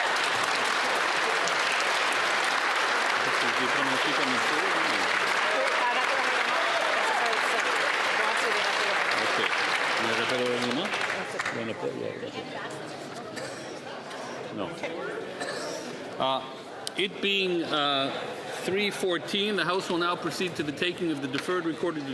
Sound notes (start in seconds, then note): 6.8 applause